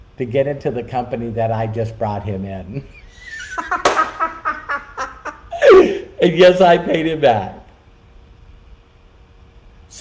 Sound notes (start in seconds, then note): 2.8 laughing